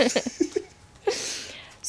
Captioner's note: laughing